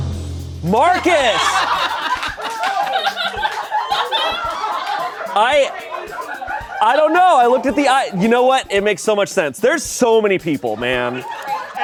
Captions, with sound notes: (deflated music) Marcus! (crew laughs) I don't know. I looked at the, you know what? It makes so much sense. There's so many people, man.